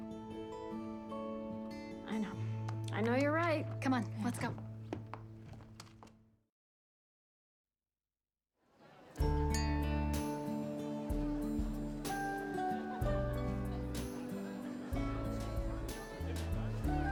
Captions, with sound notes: I know. I know you're right. Come on. Let's go. ( clink ) ( crowd chatter )